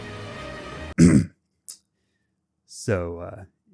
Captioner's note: clear throat